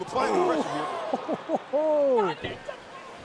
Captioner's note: crowd chatter